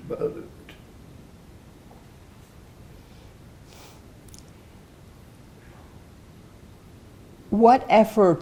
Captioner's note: pauses 6 seconds